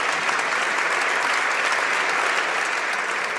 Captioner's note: speaking native language; applause